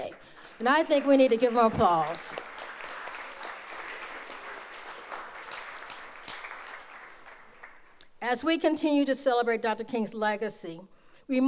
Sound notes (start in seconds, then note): 2.3 audience applauds